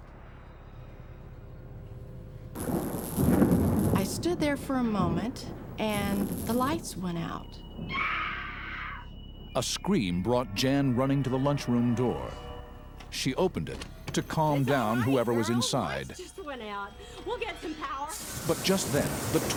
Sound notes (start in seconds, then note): 0.2 suspenseful music; 2.5 electricity buzzes; 2.8 thunder rumbles; 8.0 person screams; 18.3 wind blows violently